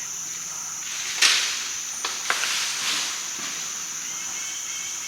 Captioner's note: crashing through trees